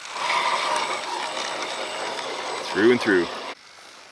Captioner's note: engine revs